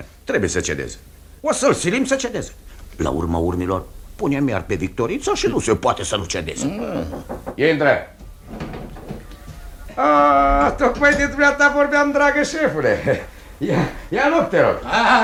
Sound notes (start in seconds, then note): 7.1 knocks on the door